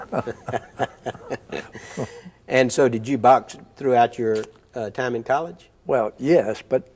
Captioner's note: both chuckle